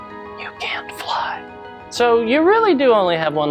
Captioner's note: whisper